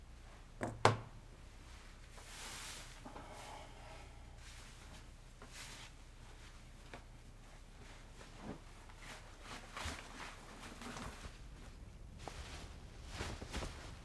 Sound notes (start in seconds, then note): none